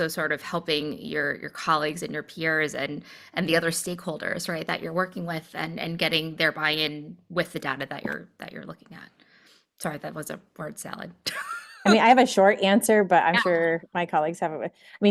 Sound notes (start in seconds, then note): 11.2 laughter